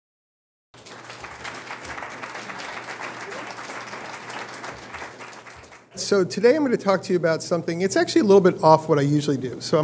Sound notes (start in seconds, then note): 0.7 applause